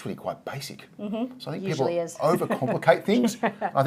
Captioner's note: laughing